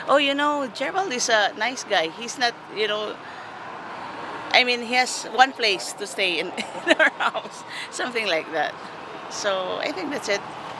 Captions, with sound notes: Oh, you know, Gerald is a nice guy. He's not you know, I mean he has one place to stay in our house, (laughing loudly) something like that. So I think that's it.